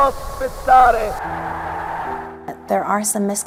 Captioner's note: crowd cheering